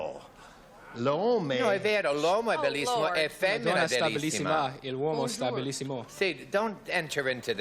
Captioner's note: speaking italian